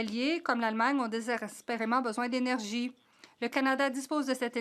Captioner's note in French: voix de l'interprète